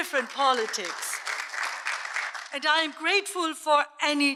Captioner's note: audience applauds